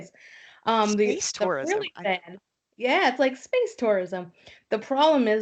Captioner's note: laughs